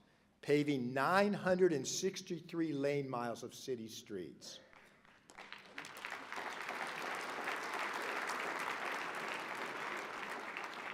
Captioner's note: applause